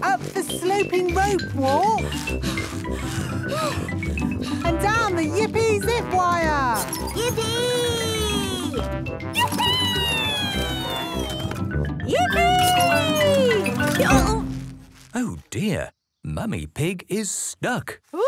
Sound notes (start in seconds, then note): 1.9 puffing and panting